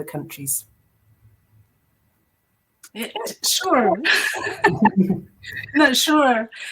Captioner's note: laughs